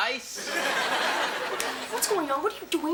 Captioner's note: audience laughs